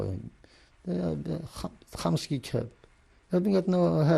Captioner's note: non-english